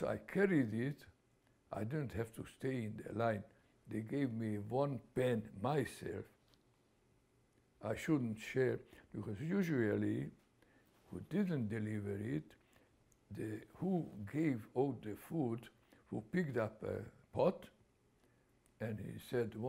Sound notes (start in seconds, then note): none